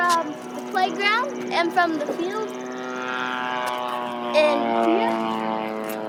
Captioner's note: airplane buzzing